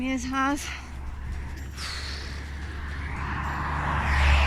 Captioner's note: traffic + sigh